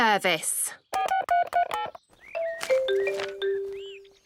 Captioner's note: phone beeping